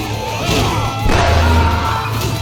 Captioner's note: bong